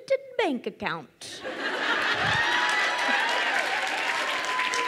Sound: crowd cheers and applauds

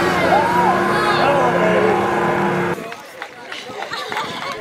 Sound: clapping

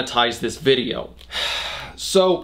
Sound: sigh

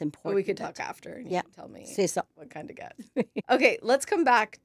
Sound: laughs

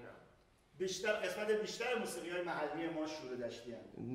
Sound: speaking in farsi

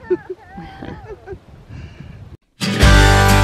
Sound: laughter; pleasant music

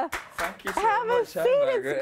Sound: applause

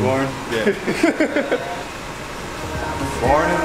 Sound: laughter

